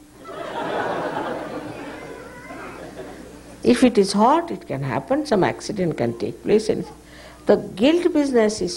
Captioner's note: big laughs